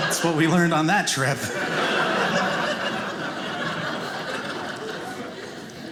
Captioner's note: audience laughing